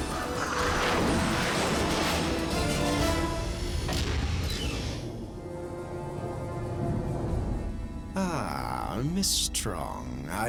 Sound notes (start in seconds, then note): 1.3 jets whoosh past